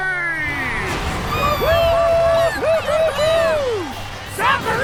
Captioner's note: cheering